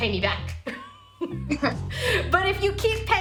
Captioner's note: laughs